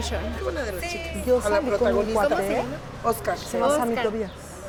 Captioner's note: speaking Spanish